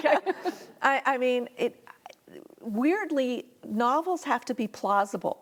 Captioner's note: laughing